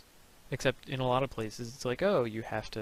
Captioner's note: none